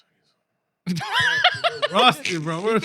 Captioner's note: laughter